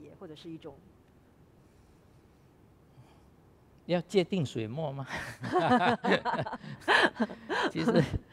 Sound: laughs

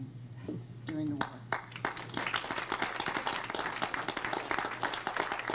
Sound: crowd applauds

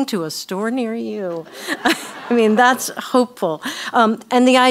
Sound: laugh

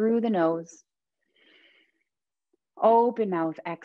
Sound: inhaling deeply

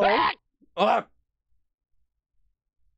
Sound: imitating alert

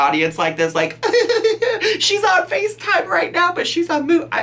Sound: giggling

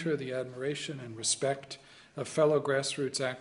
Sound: in arabic

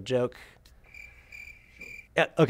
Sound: crickets chirping

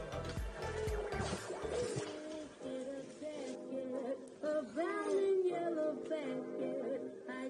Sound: old radio playing

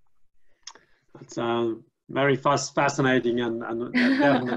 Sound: laughs

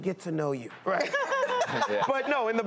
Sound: laughter

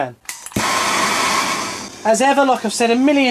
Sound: blowtorch sound

